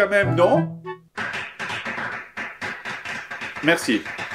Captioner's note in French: applaudissements